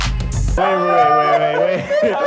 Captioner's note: laughs